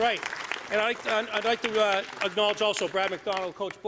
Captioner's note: applause